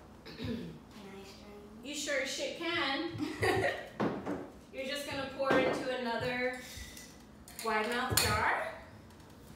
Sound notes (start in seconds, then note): 3.2 laugh